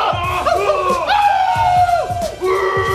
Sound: wolf howl

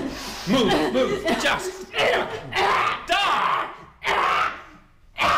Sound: Ava coughs; Ava screams

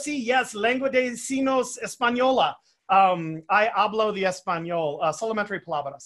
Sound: speaking foreign language

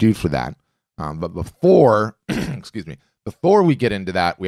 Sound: throat clearing

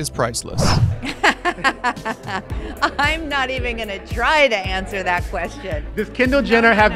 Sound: laughs

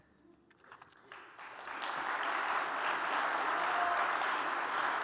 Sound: audience applauding

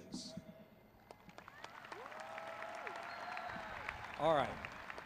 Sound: crowd cheering

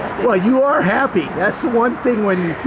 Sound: chuckling

